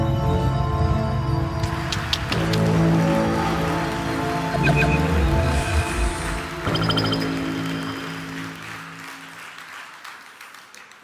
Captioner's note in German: Applaus